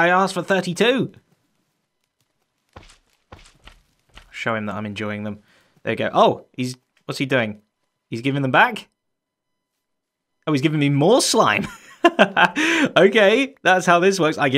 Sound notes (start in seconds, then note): 11.6 chuckles